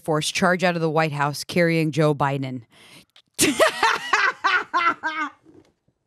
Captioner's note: laughs